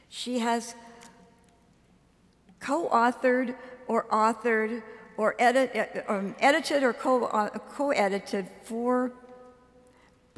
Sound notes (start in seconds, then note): none